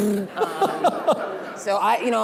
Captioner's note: laughing